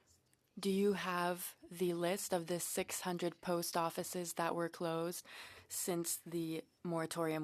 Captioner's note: speaking French